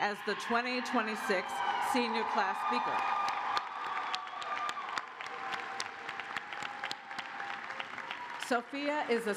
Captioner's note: cheers and applause